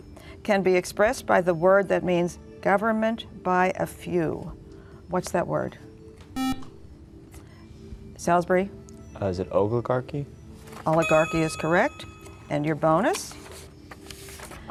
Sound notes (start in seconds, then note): 6.4 buzzer